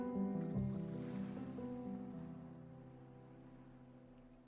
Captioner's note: water burbling